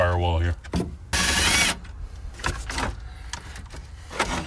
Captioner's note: drill torquing